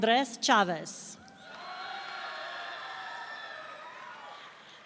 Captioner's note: audience cheering